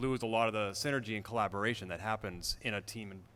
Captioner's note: none